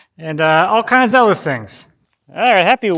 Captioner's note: laughs